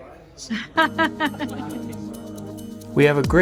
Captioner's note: laughs